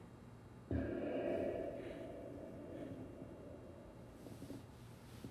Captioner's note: vapor releasing